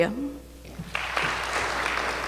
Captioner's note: applause